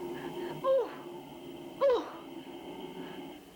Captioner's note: audibly struggling